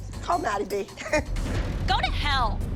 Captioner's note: Abby laughs